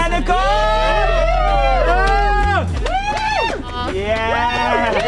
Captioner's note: riders cheering